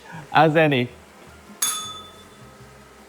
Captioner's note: bell rings